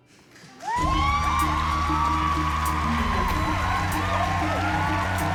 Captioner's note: cheering and applause